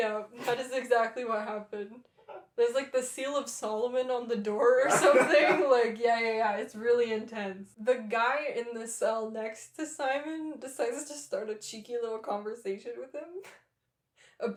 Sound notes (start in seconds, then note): 1.4 laughter; 4.8 laughter